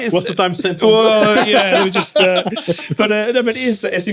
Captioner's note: laughing